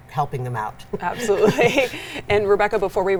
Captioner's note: laughs